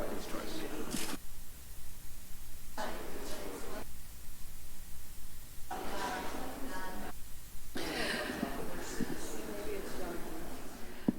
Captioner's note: background chatter